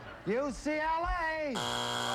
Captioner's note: buzzer